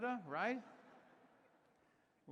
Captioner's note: laughter